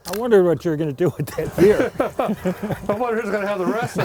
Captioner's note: laughter